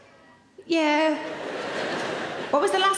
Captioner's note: audience laughing